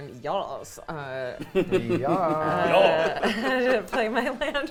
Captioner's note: giggling